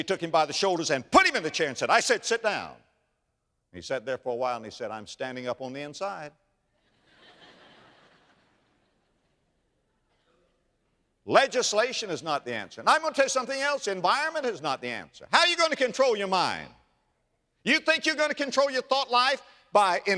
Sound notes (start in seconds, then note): 6.8 audience laughter